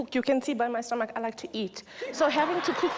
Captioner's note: audience laughs